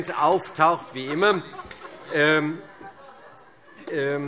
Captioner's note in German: Heiterkeit